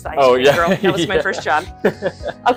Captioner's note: laughs